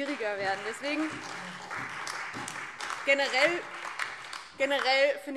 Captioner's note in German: Beifall DIE LINKE, SPD und Freie Demokraten